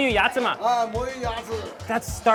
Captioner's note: speaks in a foreign language; man speaks in a foreign language